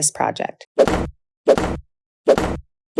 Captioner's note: slam; slam